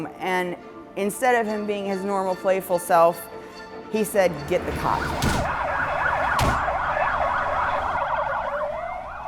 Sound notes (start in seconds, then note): 4.6 sirens